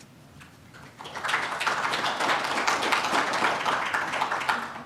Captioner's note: audience clapping